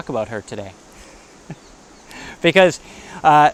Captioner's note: laughs